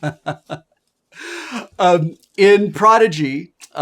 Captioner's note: Wil laughing